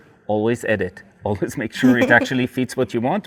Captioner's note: laughs